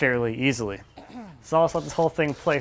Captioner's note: clears throat